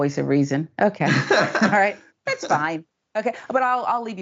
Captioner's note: laugh